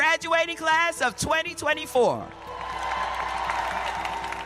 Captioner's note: cheers and applause